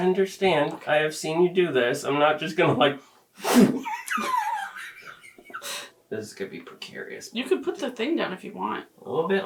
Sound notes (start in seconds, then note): 3.7 laugh